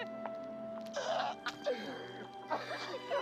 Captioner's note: both laughing